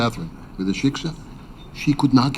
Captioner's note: speaking in foreign language